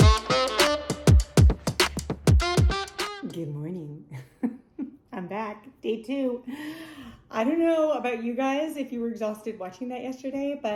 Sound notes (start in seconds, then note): 4.3 laughs